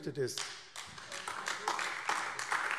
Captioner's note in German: Beifall AfD